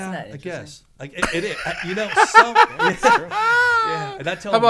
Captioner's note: laughs